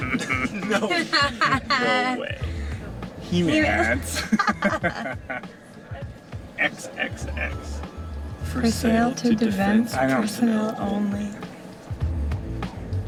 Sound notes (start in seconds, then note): 0.0 laughing; 3.5 laughter